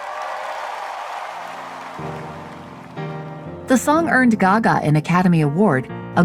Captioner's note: audience applauding and cheering